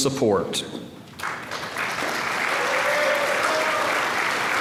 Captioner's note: applause